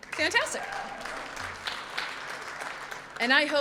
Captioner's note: audience applauds